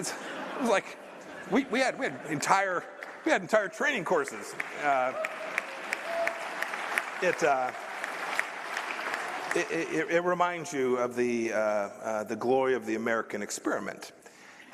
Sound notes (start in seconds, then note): 4.1 applause